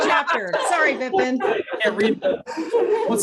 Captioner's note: laughing